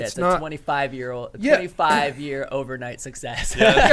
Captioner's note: laughs